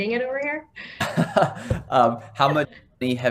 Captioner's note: laughs